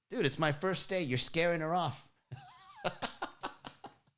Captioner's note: laughs